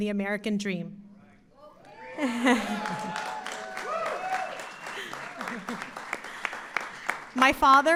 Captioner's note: applause